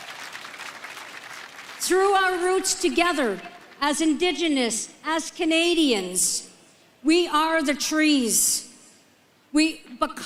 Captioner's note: applause